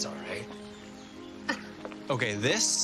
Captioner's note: scoffs